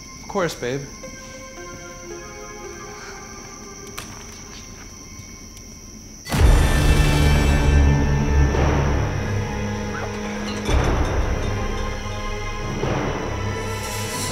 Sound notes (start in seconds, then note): 1.5 eerie music; 6.2 ominous music; 10.2 bottles rattle; 11.5 ominous music